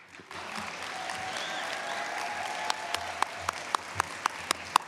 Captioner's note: cheers, applause